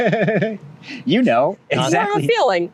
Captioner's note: laughter